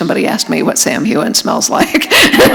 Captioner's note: laughter